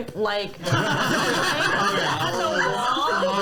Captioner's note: laughter